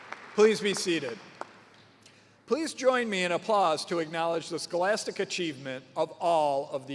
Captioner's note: cheers and applause